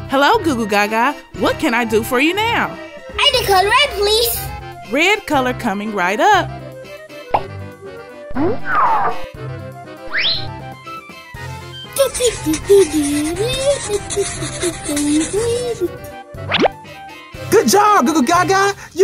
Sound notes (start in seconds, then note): 7.3 popping sound effect; 8.4 various cartoon sound effects; 11.9 scratching sound effect; 14.4 sings gibberish